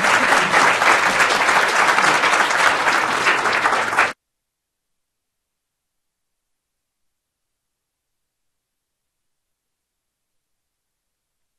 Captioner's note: applause